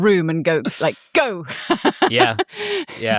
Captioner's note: laughs